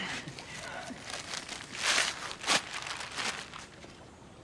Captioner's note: paper ripping